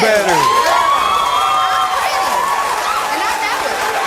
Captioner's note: audience cheers